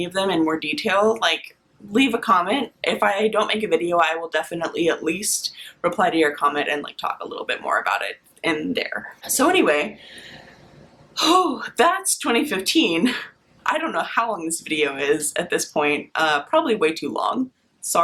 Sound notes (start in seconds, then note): 9.9 lets out breath